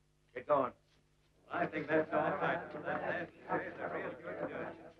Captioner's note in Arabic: ثرثرة الرجال